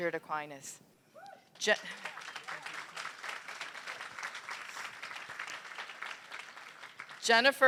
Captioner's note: applause